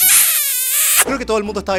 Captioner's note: kiss